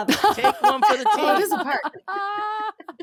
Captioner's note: laughing